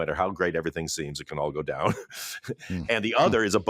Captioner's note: chuckles